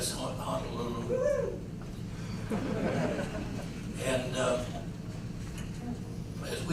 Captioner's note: Cheer from USS Honolulu relatives in audience/Laughter